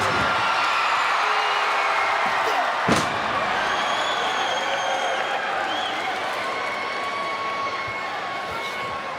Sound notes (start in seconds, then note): 2.2 body thuds; 3.6 crowd cheering